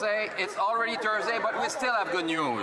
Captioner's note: speaking French